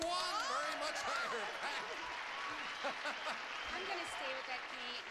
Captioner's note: audience applauding